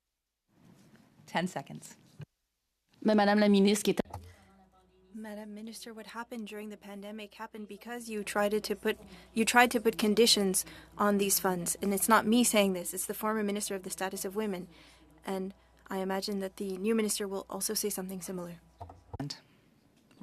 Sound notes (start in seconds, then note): 7.2 speaking French